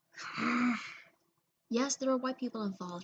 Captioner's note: sigh/growl